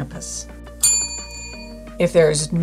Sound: bell rings

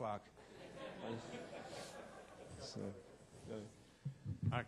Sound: audience laughing

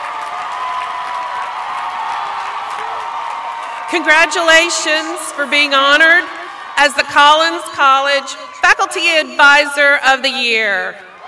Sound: applause

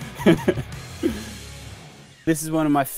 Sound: laughs

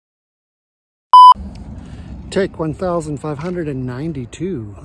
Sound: tone beeps

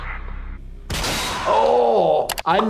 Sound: device shatters

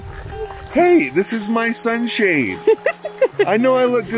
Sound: laughs

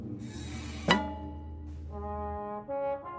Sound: string snaps

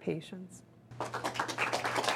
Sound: applause

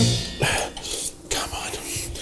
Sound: grunts

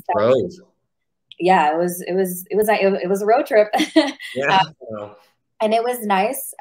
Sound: laughs

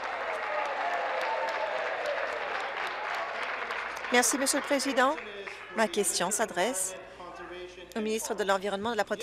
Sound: applause

